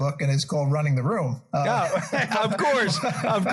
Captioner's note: laugh